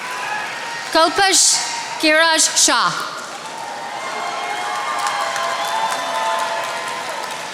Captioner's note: attendees applauding